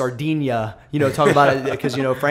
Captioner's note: laughter